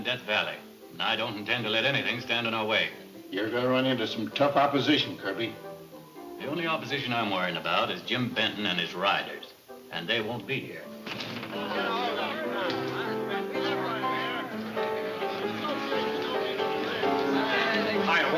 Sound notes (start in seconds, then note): 10.8 patrons chattering; 11.4 lively piano music